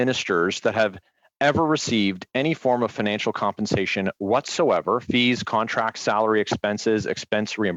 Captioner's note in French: voix de l'interprète